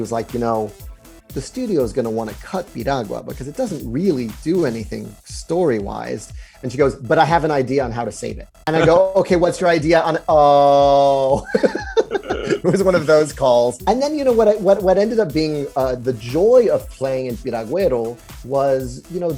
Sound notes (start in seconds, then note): 11.3 laughs